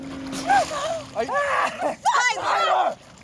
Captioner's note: ruthie gasps; laughs